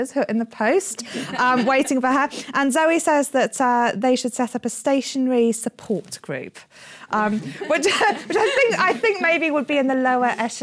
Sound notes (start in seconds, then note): 7.3 laughter